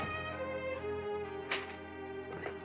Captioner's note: door shuts; papers slap